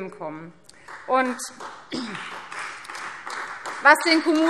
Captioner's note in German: Beifall Freie Demokraten